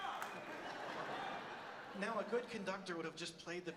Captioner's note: audience laughs